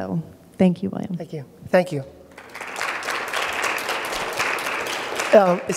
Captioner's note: applause